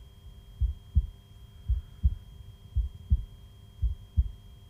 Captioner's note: heart beating continues